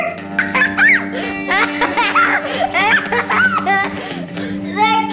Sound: crazy laughs

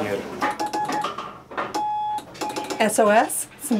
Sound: beeps

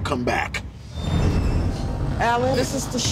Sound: scene whooshing

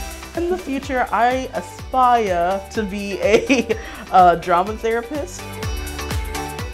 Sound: laughs

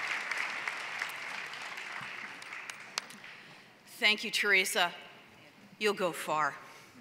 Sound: applause

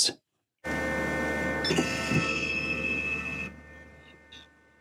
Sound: machine noise

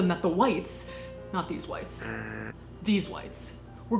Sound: buzzing

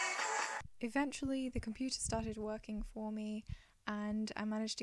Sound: drum solo; voiceover

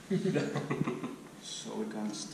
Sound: laughing

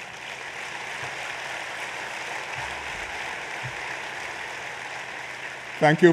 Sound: applause

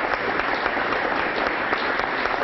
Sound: applause

